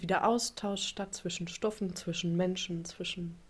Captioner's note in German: none